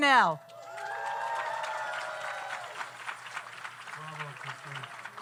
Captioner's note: audience cheers; audience applauds